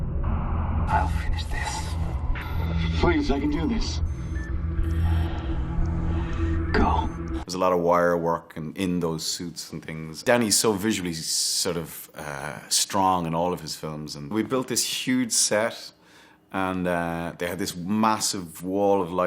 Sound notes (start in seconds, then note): 0.8 comms crackles